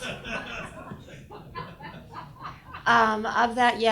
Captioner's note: audience laughs